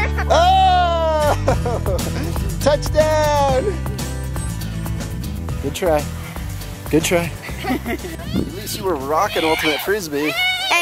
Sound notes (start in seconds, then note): 7.3 laughing